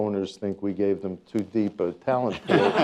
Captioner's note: laughter